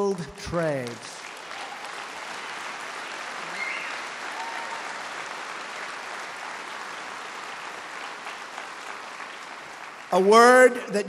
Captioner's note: applause